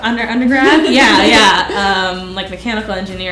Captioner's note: laughs